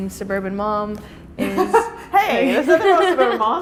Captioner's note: laughing